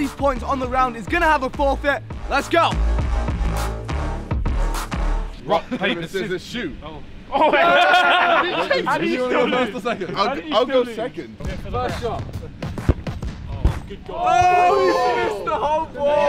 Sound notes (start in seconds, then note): 3.1 hip hop music plays; 7.3 laughter